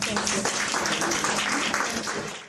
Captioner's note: audience clapping